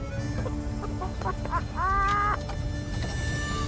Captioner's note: laughter